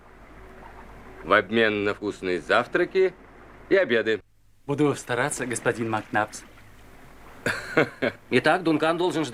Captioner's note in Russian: смех